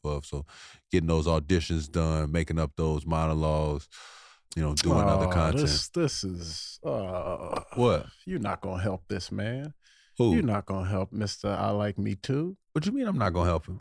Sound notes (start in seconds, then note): 6.8 groaning